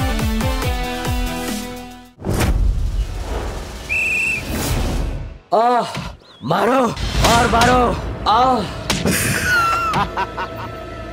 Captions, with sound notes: Ah! Hit me! Beat me up! [laughing]